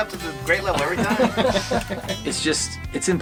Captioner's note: laughing